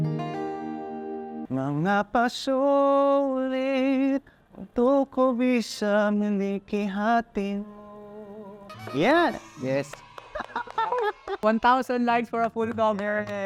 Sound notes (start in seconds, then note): 10.2 laughter